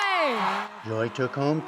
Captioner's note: cheering